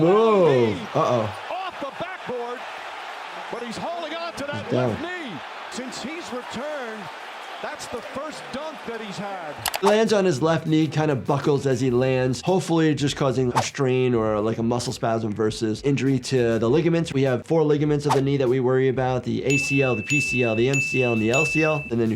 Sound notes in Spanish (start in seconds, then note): 9.5 clics del ratón